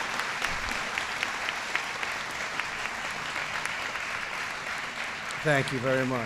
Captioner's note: applause